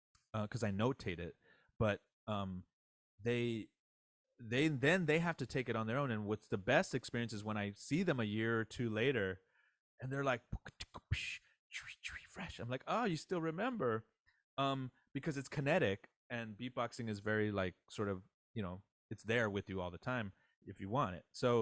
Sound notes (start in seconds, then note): 10.4 beatboxing